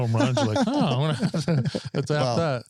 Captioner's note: laughing